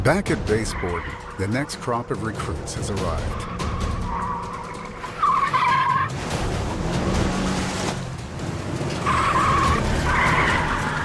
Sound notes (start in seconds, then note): 4.9 dramatic music; 4.9 wheels screech